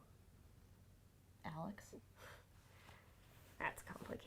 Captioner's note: Claire sniggers